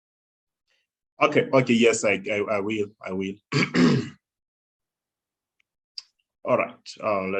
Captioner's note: coughs